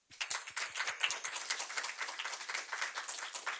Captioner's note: group applauds